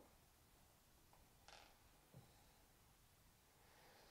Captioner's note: quiet creaking of the floor